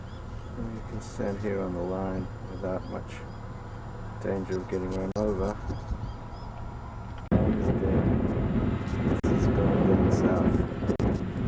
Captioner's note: wind; wind